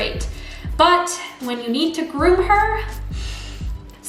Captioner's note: deep breath